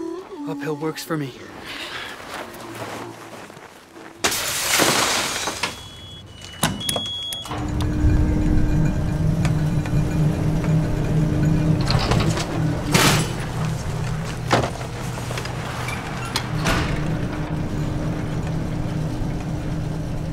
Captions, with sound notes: Uphill works for me. [beeping]